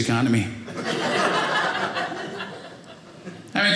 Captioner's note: audience laughing